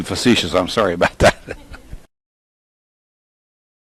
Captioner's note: laughs